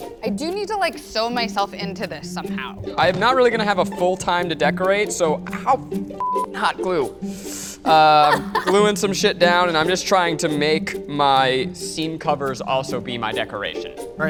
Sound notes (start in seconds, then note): 6.2 beep